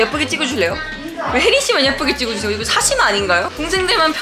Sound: hahahaha

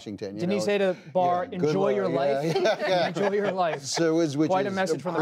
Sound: laughter

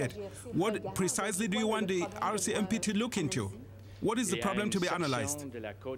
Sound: speaking french

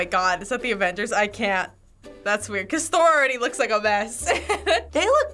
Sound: chuckles

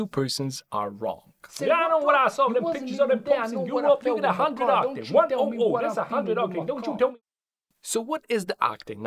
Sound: both speaking in angry Muricanish

